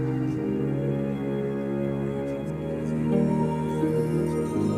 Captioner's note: quietly coaching